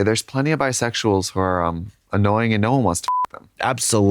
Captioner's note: beep